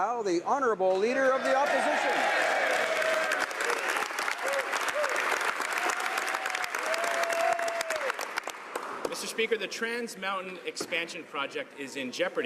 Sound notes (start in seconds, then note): 0.0 some Applause; 1.8 speaking French; 4.9 some Applause